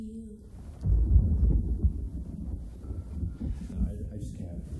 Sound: thunder rumbling

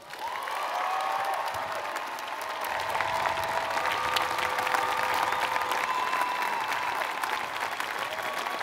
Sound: applause

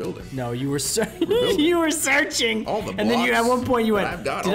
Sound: laugh

